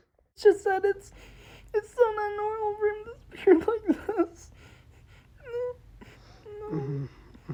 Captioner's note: crying; sniffles